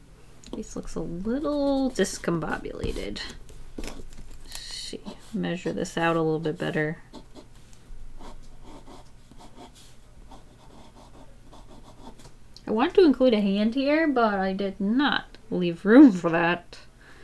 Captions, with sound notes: The face looks a little discombobulated. Let's see, measure this out a little bit better. [Pencil scratching on paper] I want to include a hand here, but I did not leave room for that.